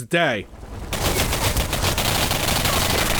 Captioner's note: sudden gunfire